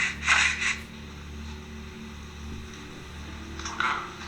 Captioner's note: breathing